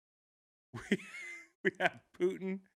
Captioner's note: laughing